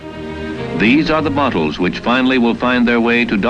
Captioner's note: voiceover